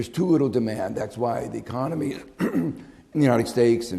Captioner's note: clears throat